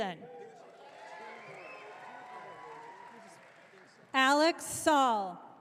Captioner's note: audience cheering